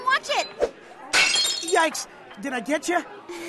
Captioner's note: crash